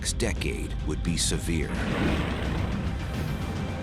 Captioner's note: explosion